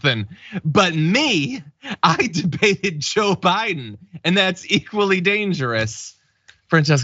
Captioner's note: laugh